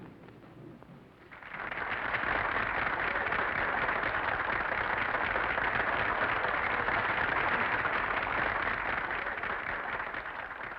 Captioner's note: applause